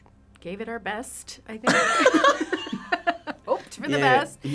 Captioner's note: laughing